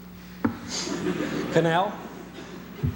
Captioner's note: laughter